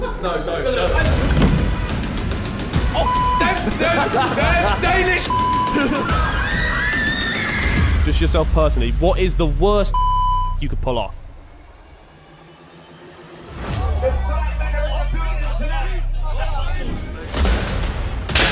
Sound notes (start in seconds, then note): 5.7 girls screaming